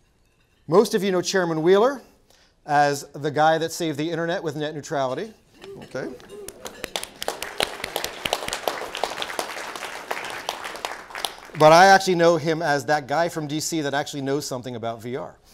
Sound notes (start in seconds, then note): 5.7 applause